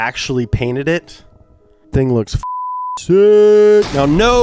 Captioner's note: beep